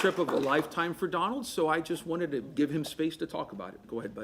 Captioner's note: applause